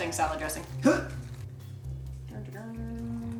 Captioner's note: gags